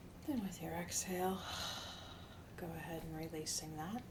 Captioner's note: deeply exhales